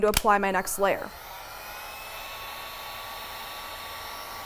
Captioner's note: buzzing